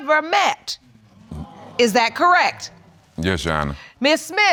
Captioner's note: audience exclaiming